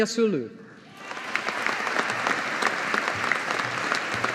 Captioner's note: audience applauding